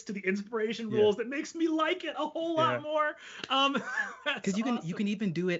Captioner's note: laughs